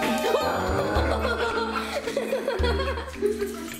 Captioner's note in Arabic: يضحك